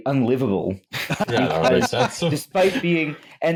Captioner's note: laughter